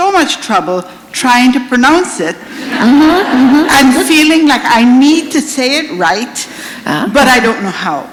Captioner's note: laughter